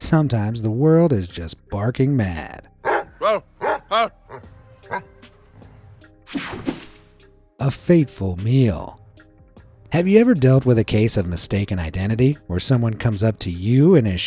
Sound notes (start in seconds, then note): 2.8 dog barking